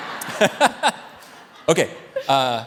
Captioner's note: all laughing